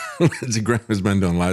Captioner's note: laughs